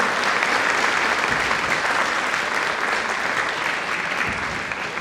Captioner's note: audience applauding